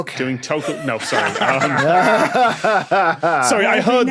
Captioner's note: guests laughing